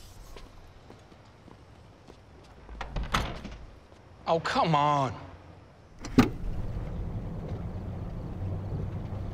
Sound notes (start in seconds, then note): 2.8 door closes